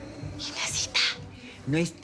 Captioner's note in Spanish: Susurra